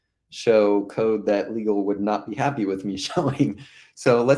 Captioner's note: laughing